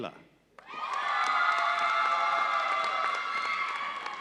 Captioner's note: audience cheering